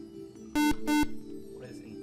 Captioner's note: beep